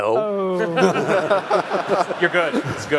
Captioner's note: laughs